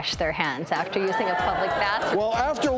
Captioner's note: groaning